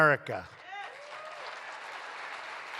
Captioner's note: applause